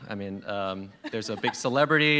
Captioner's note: laughter